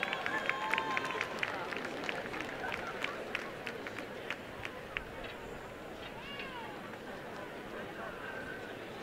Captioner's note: applause